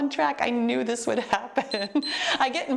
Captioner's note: timer beeps